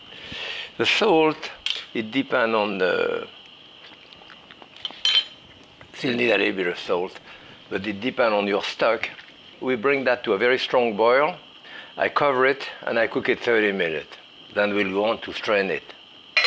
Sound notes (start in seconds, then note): 4.8 spoon clinks